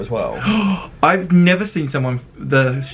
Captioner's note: gasps